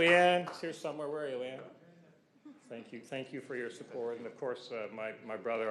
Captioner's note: cheers and Applause